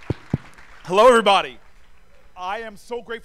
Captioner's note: cheers and applause